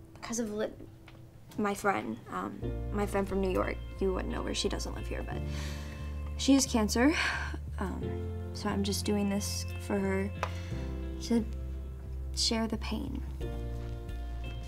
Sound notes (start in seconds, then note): 7.1 sighs